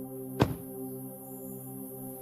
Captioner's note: metallic clunk of a car door closing